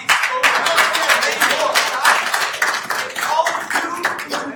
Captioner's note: attendees applauding